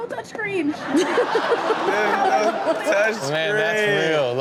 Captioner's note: cameraperson and audience laughing